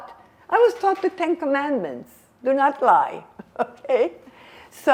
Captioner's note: laughing